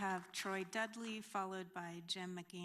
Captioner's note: applause